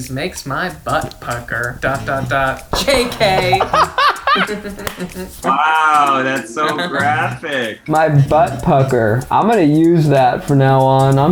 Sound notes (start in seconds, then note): 2.7 both laughing